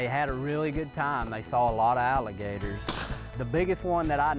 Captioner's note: gun firing